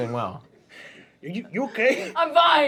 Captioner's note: laughs